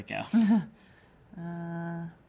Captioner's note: chuckling